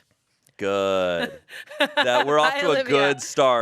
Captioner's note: laughs